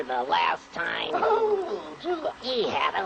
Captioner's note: groans and guffaws